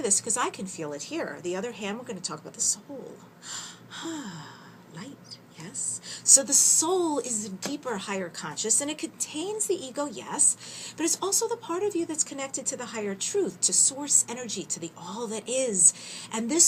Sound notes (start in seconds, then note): 3.5 sigh